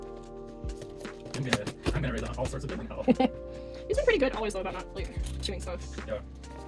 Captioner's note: giggles